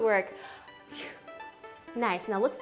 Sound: exhaling

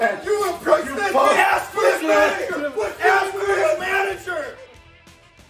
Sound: yelling

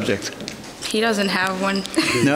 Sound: softly laughs

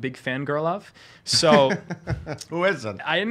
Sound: laughing

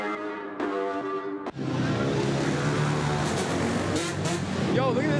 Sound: motorbikes vroom

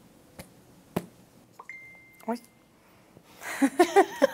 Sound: phone goes off again; both laugh

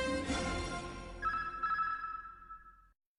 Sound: signals beeping

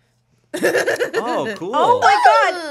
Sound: laughs

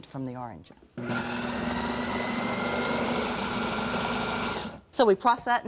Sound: whirring

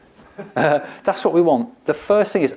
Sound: chuckles

